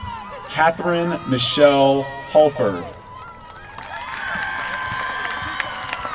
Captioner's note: applause